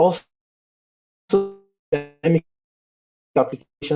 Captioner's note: audio distorted